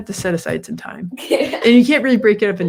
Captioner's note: Inga's daughter laughs